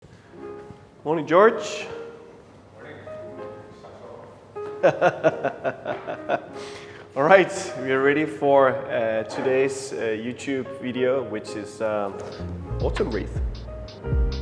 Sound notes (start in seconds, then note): 4.8 laughing; 14.1 smooth jazz music